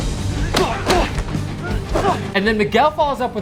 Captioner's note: both grunt